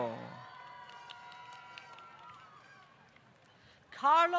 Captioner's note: applause